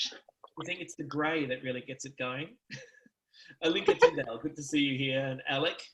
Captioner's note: laughs